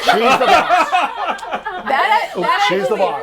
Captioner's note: everyone laughs